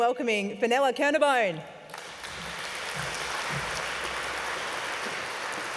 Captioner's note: applauses